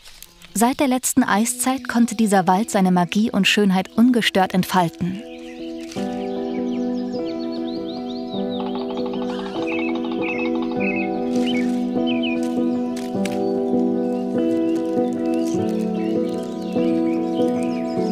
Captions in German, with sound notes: Seit der letzten Eiszeit konnte dieser Wald seine Magie und Schönheit ungestört entfalten. (Atmosphärische Musik, Vogelzwitschern) (Spechtklopfen)